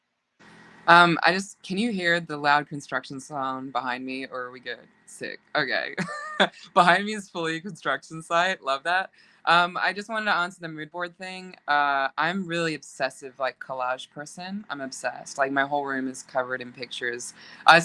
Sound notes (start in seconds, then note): 5.9 laughing